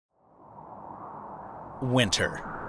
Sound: wind rushes

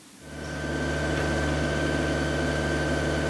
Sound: machine noise

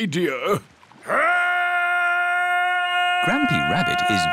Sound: shouting

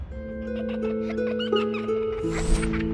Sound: giggling

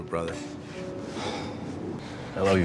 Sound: sighs

